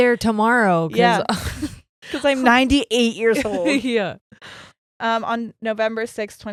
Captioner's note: chuckles; laughs